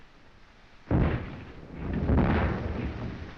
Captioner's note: bombs continue exploding